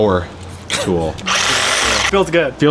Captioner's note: laughs; power tool drilling